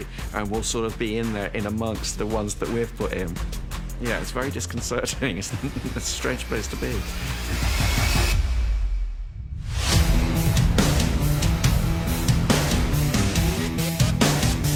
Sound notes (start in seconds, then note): 5.4 chuckles; 9.8 up-beat music plays